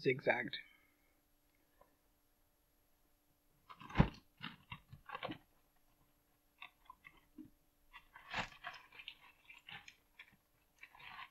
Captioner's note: rustling, chair creaking